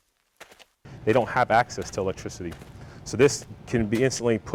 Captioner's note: voiceover